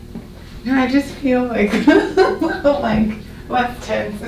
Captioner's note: laughs